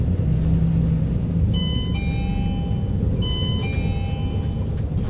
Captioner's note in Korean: 하차벨 소리